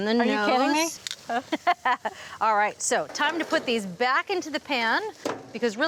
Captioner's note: laughs